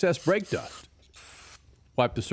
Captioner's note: aerosol can hissing